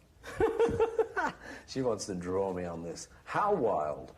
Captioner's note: laughter